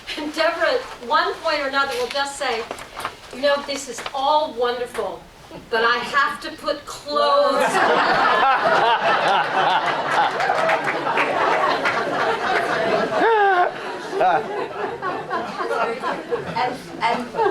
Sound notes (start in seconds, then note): 9.0 laughter